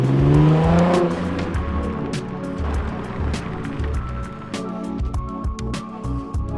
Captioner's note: engine revving